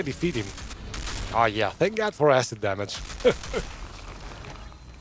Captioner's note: laughs